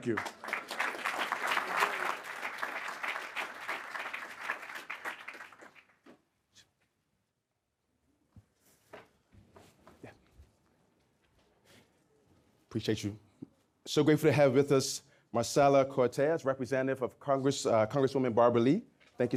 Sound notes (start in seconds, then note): 1.5 audience clapping